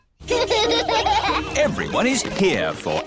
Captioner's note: children laughing